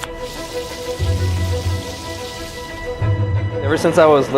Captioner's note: knife slicing; cooking oil bubbling